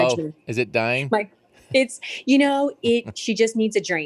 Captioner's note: laughs